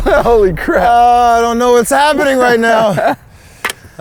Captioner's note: laughs